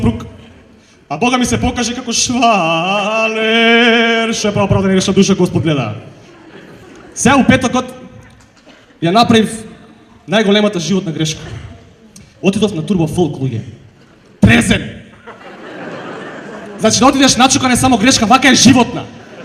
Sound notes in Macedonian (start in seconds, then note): 15.1 смеа